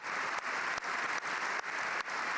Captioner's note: applause